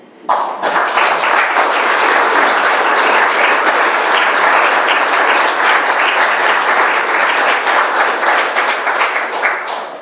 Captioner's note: applause